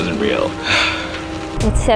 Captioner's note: sighs